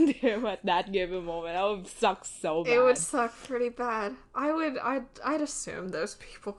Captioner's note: laughs